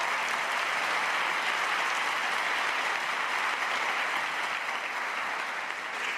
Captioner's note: cheers and applause